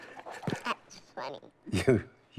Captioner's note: laughs